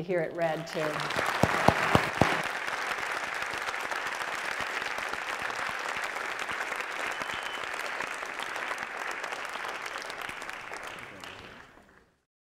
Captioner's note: applause